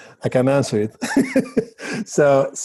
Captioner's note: chuckles